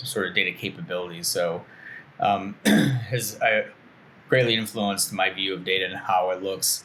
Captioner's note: clears throat